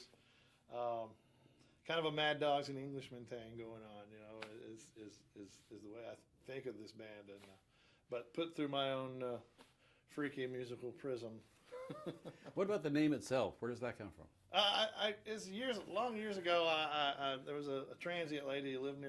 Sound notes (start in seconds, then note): 11.7 chuckles